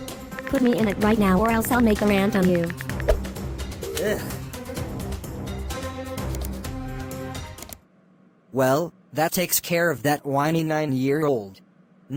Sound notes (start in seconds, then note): 3.8 groans